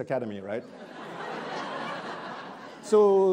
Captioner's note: attendees laughing